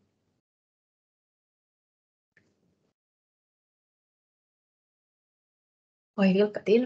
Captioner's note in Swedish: Tystnad